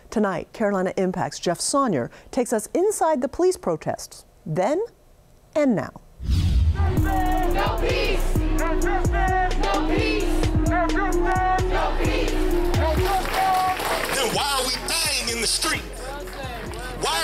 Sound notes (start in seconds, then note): 7.3 crowd